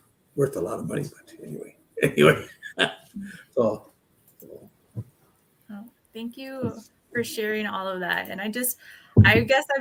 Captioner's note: laughs